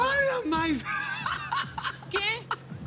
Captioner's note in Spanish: Risas